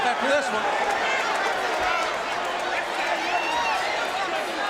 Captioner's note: audience cheering